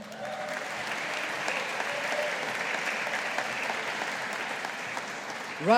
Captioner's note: audience applauding